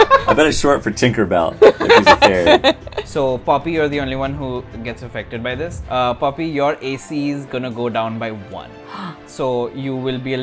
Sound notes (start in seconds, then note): 1.6 laughter; 8.8 gasp